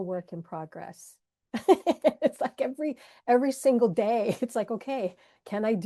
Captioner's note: laughs